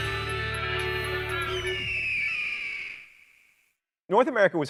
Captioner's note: eagle shrieking